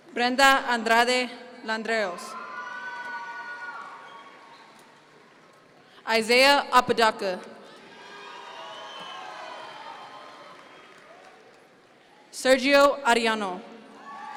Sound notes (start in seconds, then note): 2.3 audience members cheer; 7.7 audience members cheer